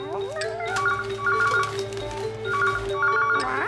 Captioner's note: phone Rings